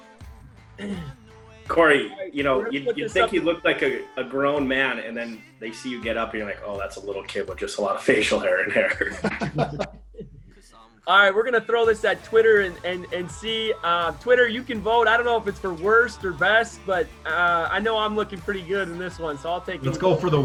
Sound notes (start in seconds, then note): 0.2 all laugh; 8.4 all laugh